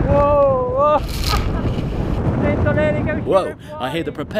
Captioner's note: laughing and speaking foreign language